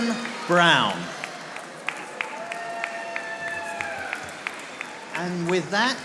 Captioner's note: audience applauding